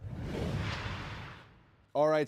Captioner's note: logo whooshing